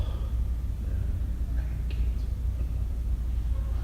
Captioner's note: whispers